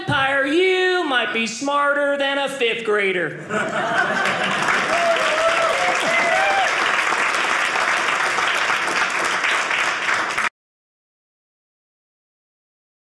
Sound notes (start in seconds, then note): 3.8 audience cheering